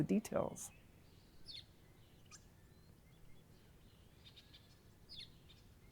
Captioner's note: birds chirping